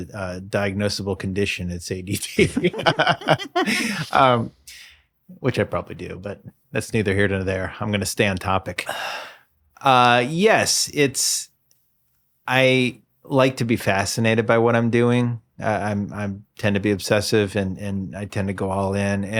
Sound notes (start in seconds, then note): 2.2 laughs